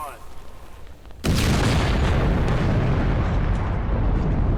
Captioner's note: voice on loudspeaker, burning flare crackles; loud blast